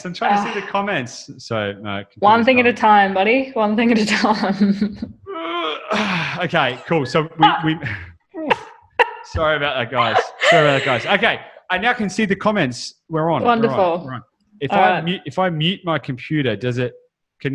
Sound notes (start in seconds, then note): 4.5 laughs; 5.4 groans; 7.4 laughs